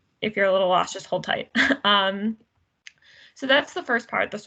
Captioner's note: giggles